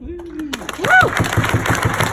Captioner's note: applause